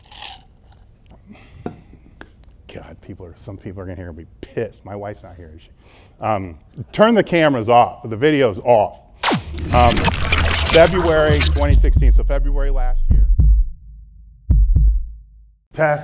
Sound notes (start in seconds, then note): 9.2 electronic noise; 13.6 heartbeat